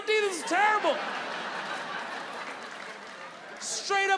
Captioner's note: audience laughing